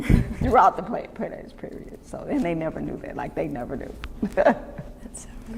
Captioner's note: laughter; laughs